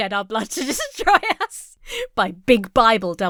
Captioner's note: laughs